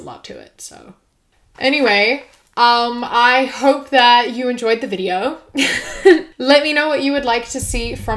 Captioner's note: laughs